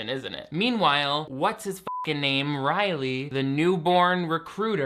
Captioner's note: beep